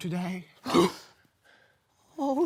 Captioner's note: sharp inhale